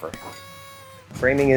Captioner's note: party horn honking